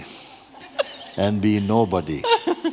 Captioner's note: laughter